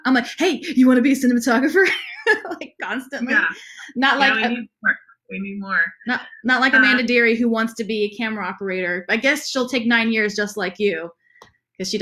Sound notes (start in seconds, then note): 3.2 laughs